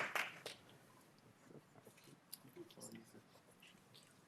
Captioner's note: applause